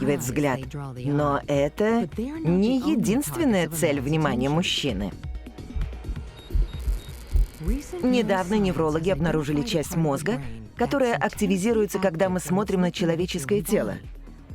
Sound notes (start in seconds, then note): 5.8 beeping